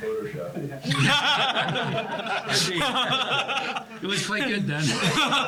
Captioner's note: laugh